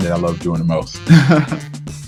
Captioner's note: laughs